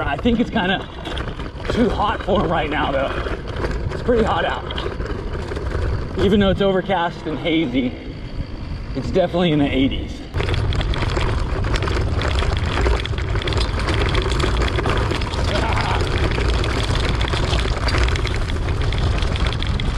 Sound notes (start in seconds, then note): 10.5 bike clattering; 15.7 grunting